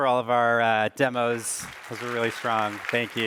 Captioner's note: applause